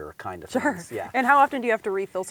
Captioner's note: laughs